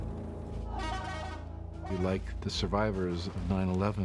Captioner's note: horn honking